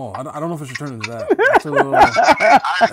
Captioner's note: laughing